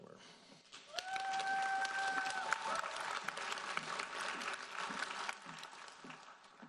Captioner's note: audience cheering and applauding